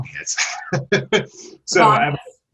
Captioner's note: laughs